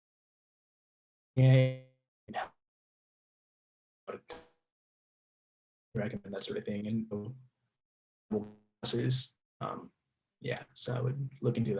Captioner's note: audio out